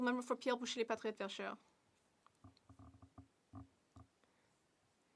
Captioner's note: speaking French